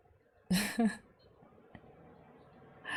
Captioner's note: laughs